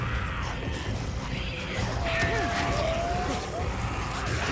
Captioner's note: blow thuds; zombies screeching